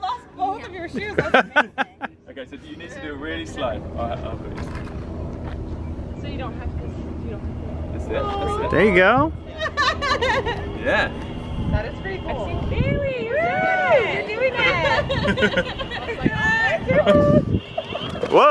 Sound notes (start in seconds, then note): 9.5 laughing; 14.5 mom laughing